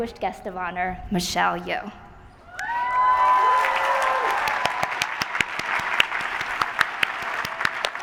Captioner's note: applause